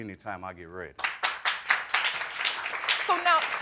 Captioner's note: audience clapping